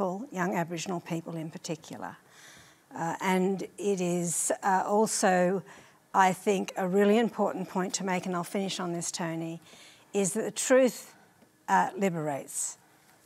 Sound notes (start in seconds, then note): none